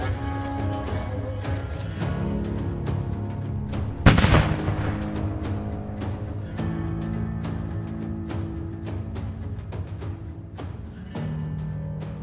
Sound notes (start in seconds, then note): 0.1 sings in foreign language; 4.0 gun firing; 6.6 upbeat music